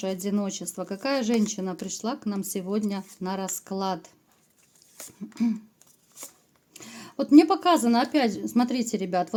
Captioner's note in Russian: откашливается